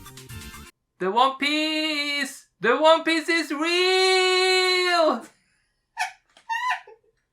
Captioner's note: laughing